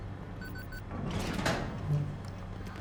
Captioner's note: keypad beeping; door clanks